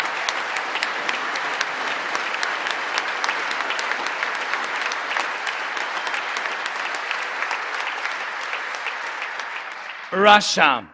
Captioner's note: cheering and Applause